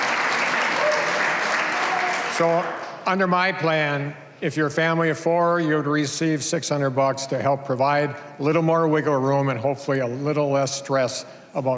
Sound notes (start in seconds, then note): 0.0 cheers and applause